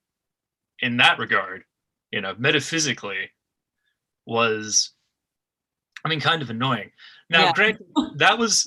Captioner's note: laughs